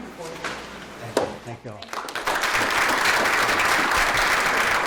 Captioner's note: applause